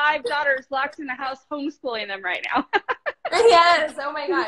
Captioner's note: laughs